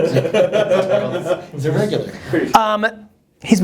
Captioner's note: laughter; voiceover